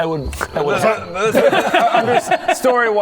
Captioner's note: impatient laughter